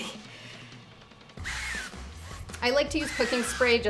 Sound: can spraying

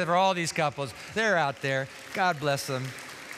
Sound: applause

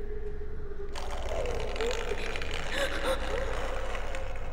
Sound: scratching

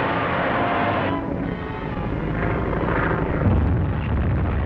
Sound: motor revving; engines droning; explosions booming

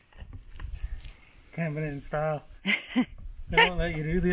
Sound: chuckles

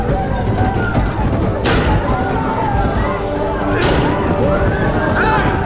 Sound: banging

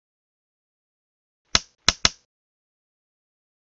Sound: whack

